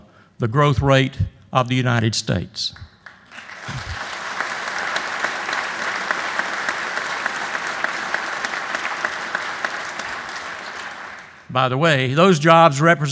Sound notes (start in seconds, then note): 2.8 applause